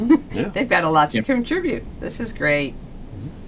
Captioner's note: laughs